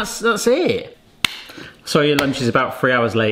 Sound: high five slaps

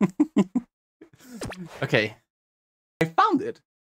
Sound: laughs

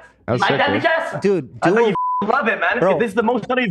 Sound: beep

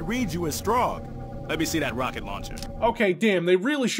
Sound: RUCK with a clearly different voice

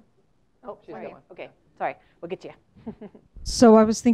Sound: laugh

